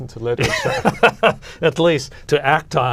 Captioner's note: laughter